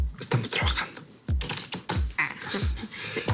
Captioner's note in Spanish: Sonido al teclear